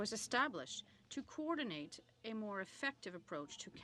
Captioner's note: speaking french